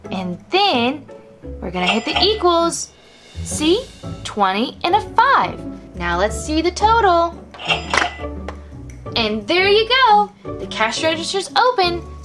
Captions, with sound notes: and then we're gonna hit the equals. (register rings) See, 20 and a five. Now, let's see the total. (register clicks and rings) And there ya go, the cash register's open.